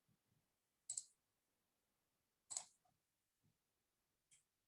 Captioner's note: mouse clicking